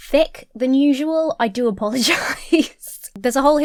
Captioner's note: laughs